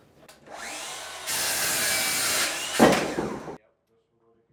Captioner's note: sawing sounds